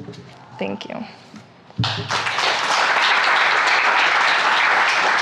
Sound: audience applauds

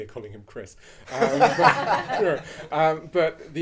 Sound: audience laughing

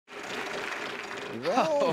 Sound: wheel sputtering

